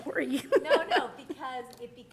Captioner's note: chuckle